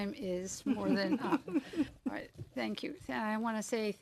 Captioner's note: laughter